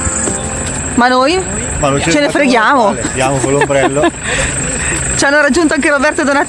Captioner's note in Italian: risate